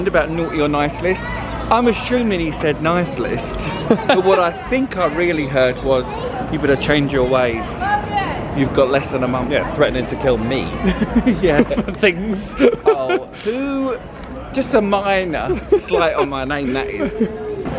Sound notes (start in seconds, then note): 12.9 laughing